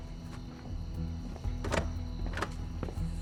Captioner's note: rattles locked door handle